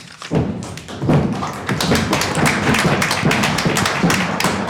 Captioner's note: applause